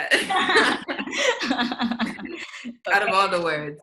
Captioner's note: women laugh